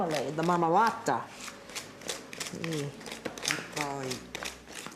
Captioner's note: speaking Italian